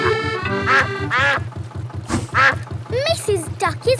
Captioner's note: quacking